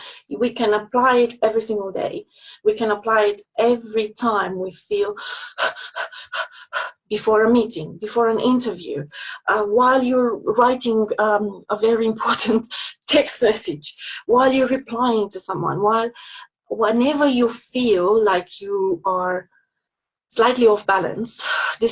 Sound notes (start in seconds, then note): 5.4 panting